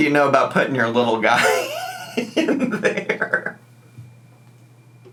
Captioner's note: laughing